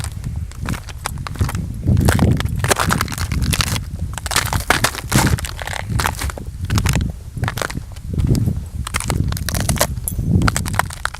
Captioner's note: crunching footsteps in the snow